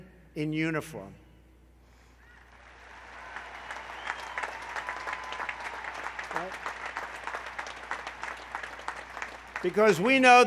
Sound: applause

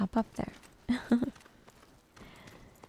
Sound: giggles

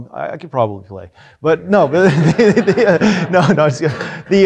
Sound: laughing

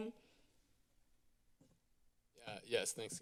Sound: silence

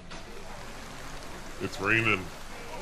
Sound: rain sound

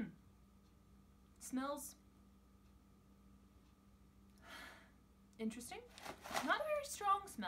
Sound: deep exhale

